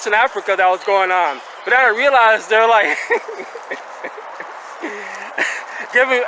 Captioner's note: chuckling